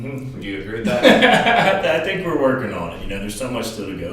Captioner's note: laughs